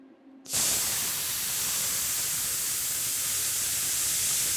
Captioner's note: sparks hissing